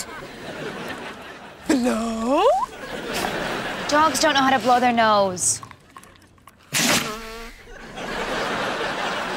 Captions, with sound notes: [laughing] Blow! Dogs don't know how to blow their nose. [blowing] [laughing]